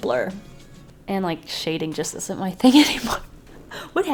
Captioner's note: laughs